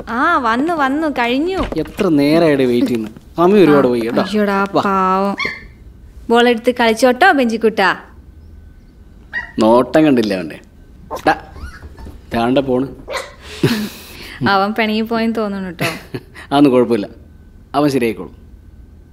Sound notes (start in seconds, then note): 9.2 Benji whimpering